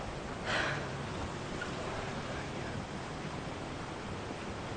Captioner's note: Cassandra exhales loudly